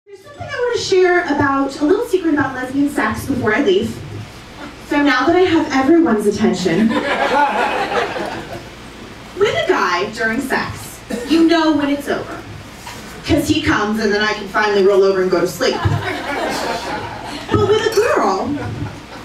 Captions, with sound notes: There’s something I want to share about a little secret about lesbian sex before I leave. So now that I have everyone’s attention, [laughter] with a guy during sex, you know when it’s over because he cums and then I can finally roll over and go to sleep. [laughter] But with a girl,